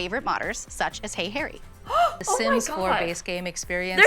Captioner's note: gasps